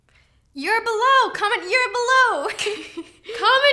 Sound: laughs

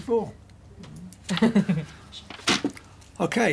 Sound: laughs

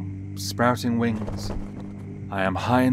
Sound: wings fluttering

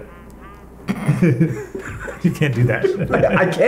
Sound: laughs

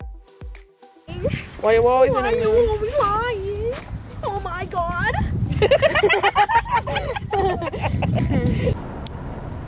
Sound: laughter

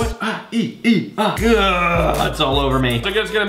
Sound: disgusted sounds

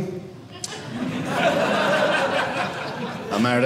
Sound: audience laughing

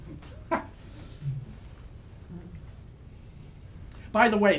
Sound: laughs

